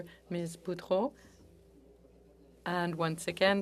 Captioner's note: speaking French